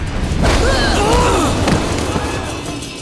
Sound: grunting

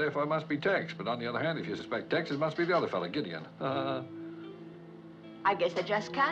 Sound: chuckles

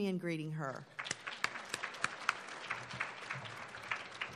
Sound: applauding

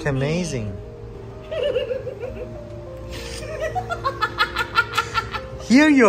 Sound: laughing

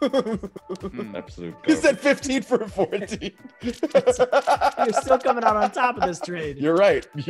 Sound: laugh

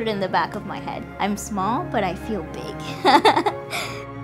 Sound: laughs

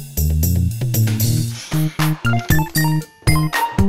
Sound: sigh

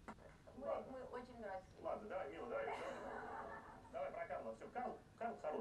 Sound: speaking in foreign language

